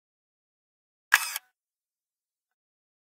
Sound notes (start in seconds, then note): 1.1 sound of camera shutter